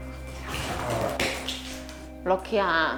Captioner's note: Lucky and Hope end up growling at each other